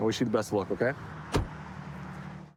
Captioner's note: door bangs